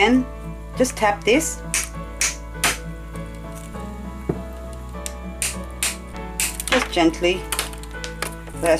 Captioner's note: tap, tap, tap